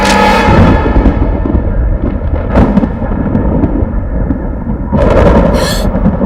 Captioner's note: thunder rumbles; gasps